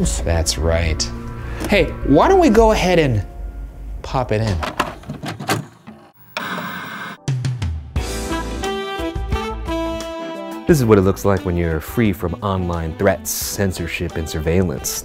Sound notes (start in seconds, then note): 5.5 tape clatters; 6.5 static whooshes; 8.1 calming saxophone music